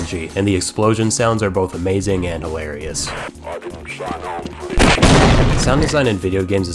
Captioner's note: boom